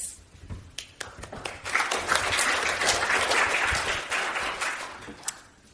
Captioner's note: audience applauds